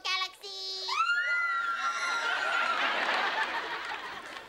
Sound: screaming

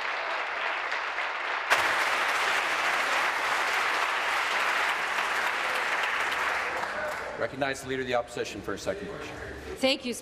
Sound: applause

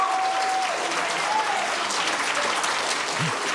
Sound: cheers and applause

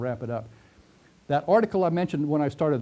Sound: pause

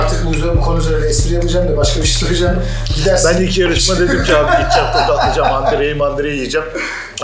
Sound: laughing

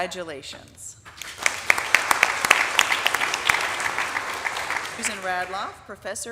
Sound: audience applauding

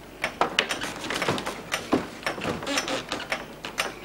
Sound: none

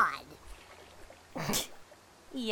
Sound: snicker

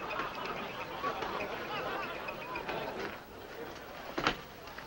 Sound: men laughing in bar

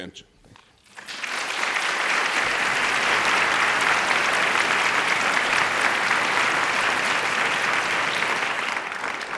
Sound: applause

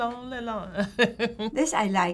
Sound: laughing

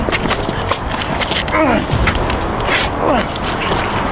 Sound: grunting

